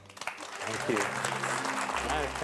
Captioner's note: clapping